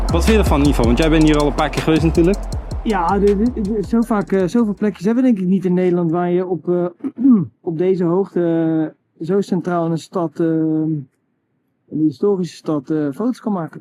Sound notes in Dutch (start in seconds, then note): 7.0 schraapt keel